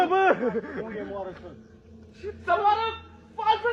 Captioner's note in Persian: خنده